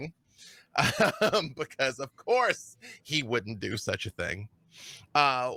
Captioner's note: laughs